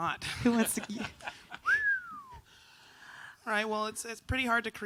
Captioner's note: whistles